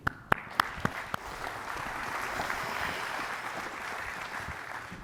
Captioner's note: audience applauds